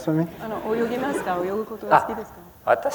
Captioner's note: foreign language